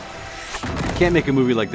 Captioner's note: creatures clashing